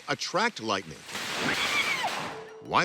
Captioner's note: lightning cracking; woman screaming